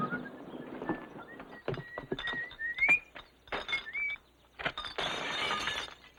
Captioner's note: man whistling; bottles shattering